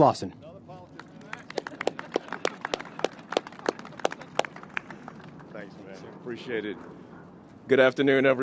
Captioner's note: applause